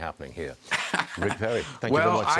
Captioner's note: laughter